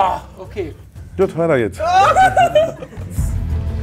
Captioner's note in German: Lachen; Spannungsvolle Musik